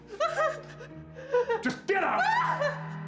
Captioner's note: crying; hysterical crying